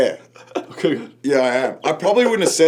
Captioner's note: chuckles